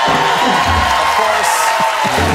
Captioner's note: audience applause